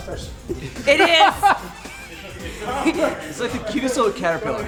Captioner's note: laughing